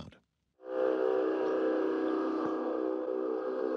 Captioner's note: horn-like sound